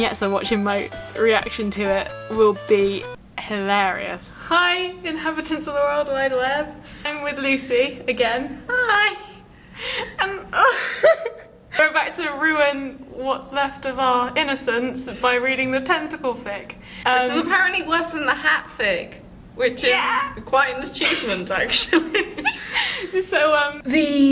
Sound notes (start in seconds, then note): 10.5 laughter of regret